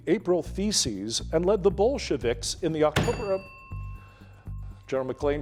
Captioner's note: bell dinging